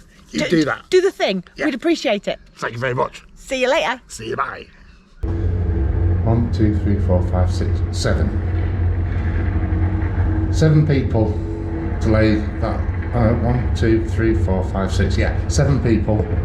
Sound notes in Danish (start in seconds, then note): 5.4 baggrundsmaskinestøj